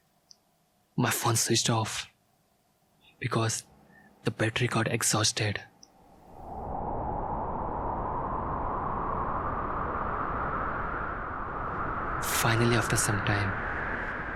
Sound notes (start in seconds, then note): 6.0 heavy wind blowing